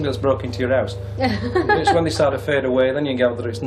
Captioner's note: laughs